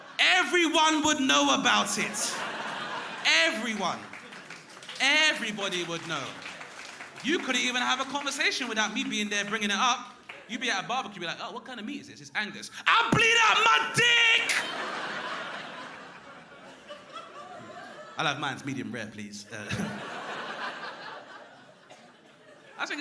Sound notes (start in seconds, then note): 0.0 crowd laughing; 13.6 crowd laughing